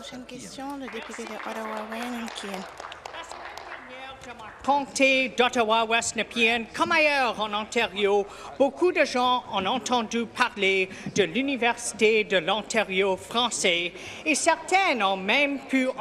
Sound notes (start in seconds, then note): 0.5 applause; 7.4 speaking French